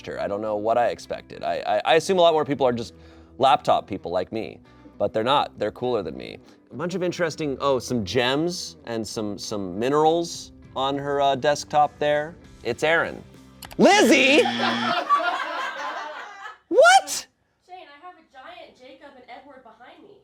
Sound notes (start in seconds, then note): 14.3 buzzer